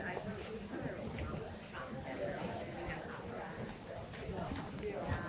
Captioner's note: people chattering